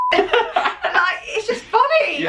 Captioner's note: laughing